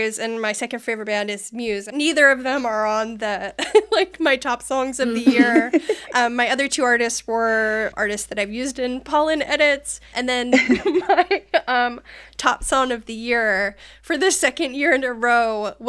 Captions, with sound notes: and my second favorite band is Muse. Neither of them are on my top songs of the year. (laughing) My other two artists were artists that I've used in Polin edits. And then my top song of the year for the second year in a row